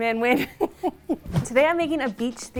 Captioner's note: laughing